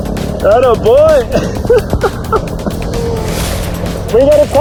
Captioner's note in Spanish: ríe